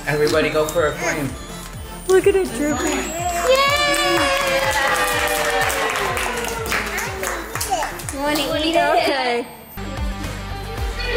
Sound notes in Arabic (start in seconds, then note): 2.8 كل التصفيق; 9.6 موسيقى مبهجة